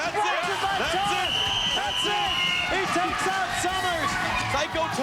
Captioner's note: whistle blows